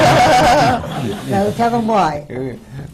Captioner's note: laughter